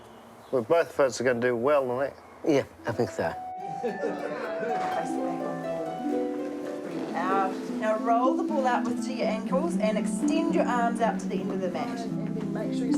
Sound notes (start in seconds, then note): 3.7 laughter; 5.9 relaxed music plays